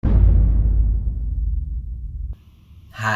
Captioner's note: dramatic boom